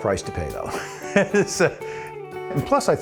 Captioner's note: laughs